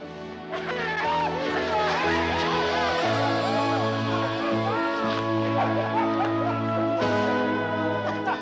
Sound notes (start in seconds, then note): 0.0 slow gentle music; 0.5 men cheering